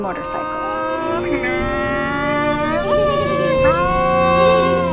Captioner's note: makes revving sounds